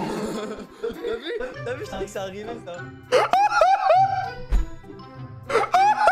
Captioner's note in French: Rires